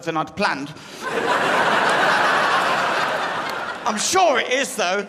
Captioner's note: crowd laughs